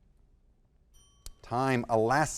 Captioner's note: bell ringing